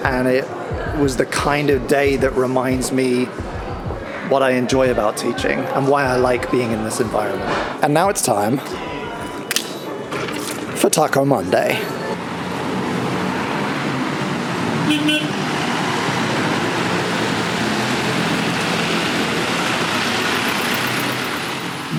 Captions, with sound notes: And it was the kind of day that reminds me what I enjoy about teaching and why I like being in this environment. And now it's time for taco Monday. (escalator running) (car horn honks)